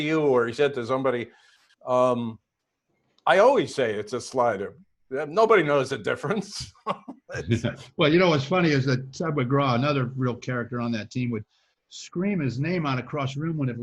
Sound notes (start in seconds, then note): 6.3 laughs